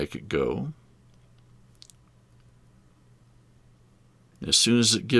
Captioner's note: silence